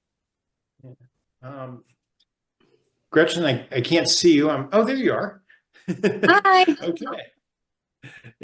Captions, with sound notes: Gretchen, I can't see you. Oh, there you are! (laughs) - Hi. - Okay.